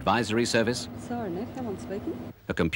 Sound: woman talking on phone

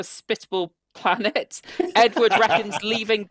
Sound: laughs

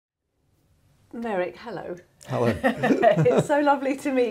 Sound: both laughing

